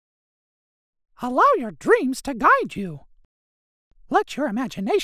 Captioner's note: recorded Voice